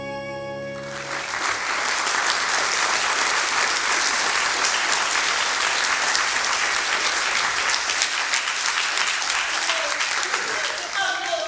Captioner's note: music out. Applause